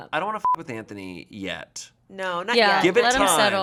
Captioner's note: beep